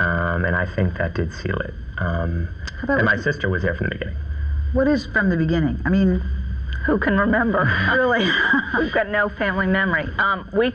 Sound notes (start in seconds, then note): 7.5 laughs